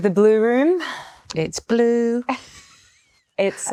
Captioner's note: Margot chuckles